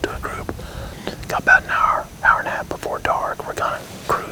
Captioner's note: whispering